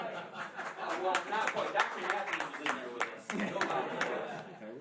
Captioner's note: laughing; applause